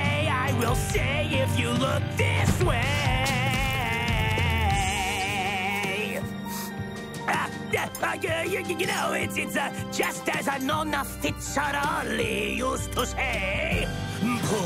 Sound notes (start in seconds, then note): 7.5 Fizz stutters; 14.4 sings in italtian